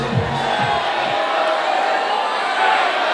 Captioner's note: crowd cheering